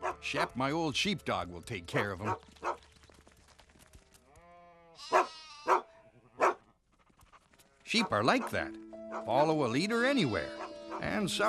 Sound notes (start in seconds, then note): 5.6 barking